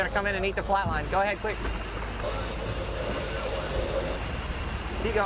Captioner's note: anchor chain squeaking; steel drum music